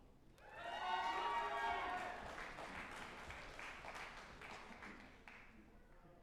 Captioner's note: group applauding and cheering